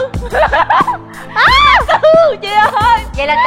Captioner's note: yelling